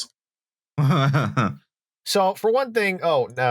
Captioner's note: chuckles sardonically